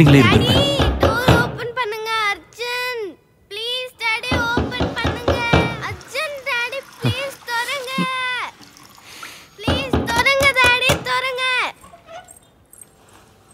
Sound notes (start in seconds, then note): 0.0 door knocking; 4.3 door knocking